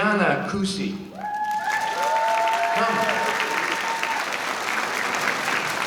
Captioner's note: applause